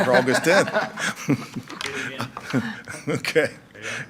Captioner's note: laughing